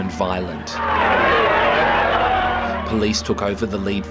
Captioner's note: shouting